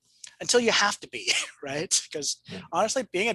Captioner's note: chuckles